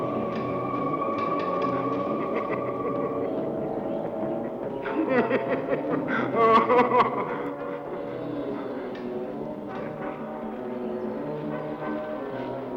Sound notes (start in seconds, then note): 2.1 Michael laughing